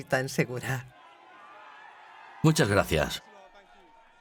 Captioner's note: crowd cheering